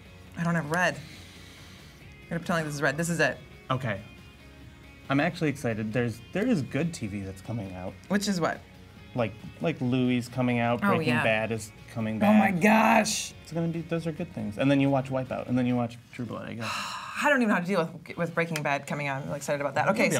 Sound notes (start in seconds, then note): 16.6 sighing